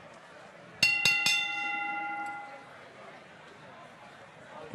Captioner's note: bell rings